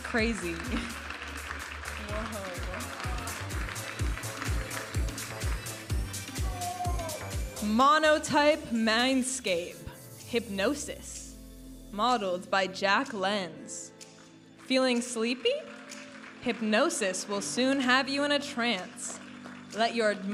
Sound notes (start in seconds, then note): 1.4 audience applauding and cheering; 4.0 upbeat music